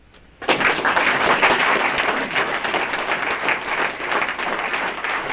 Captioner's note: applause